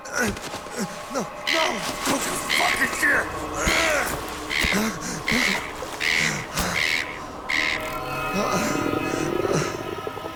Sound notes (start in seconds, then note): 0.0 grunting; 2.9 grunts; 4.6 seagull cawing; 7.5 stomach rumbling